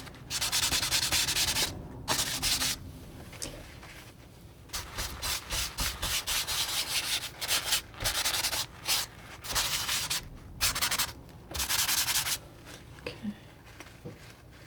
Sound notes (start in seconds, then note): 2.1 scratching